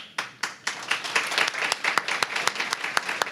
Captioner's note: applause